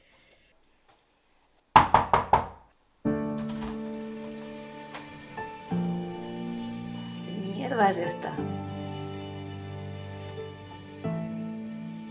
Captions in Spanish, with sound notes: (Llaman a la puerta de la casa) ¿Qué historia es esta?